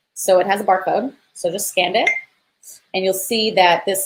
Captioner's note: beep